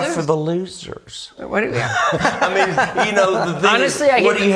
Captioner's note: all laughing